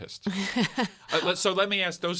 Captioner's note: laughs